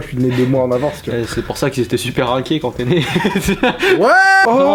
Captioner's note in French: rire